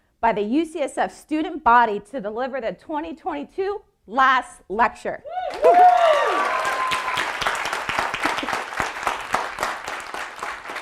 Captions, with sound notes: by the UCSF student body to deliver the 2022 last lecture. (audience applauding)